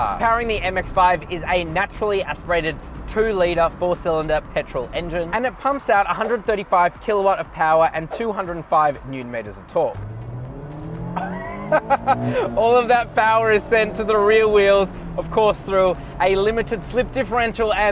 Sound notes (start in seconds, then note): 10.3 engine roaring; 11.2 laughs